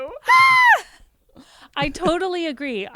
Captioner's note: squeals